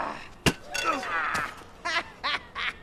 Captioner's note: hard strike; Knock laughs gleefully